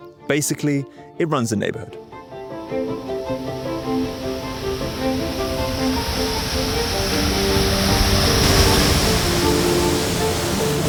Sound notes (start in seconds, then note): 2.6 water gushing; 2.7 bright music continues